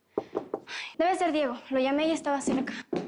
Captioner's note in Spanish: Toques en la puerta